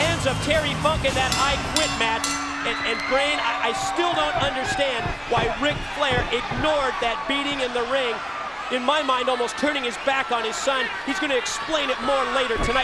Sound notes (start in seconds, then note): 4.9 bell ringing